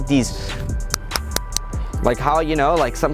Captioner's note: host smacks his skin